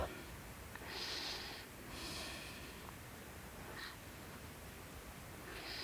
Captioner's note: breathing